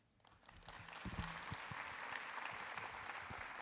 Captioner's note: applause